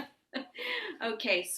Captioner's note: laughing